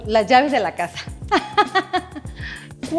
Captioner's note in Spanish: risas